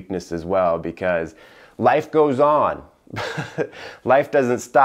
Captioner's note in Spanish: risas